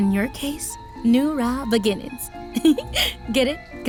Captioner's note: giggles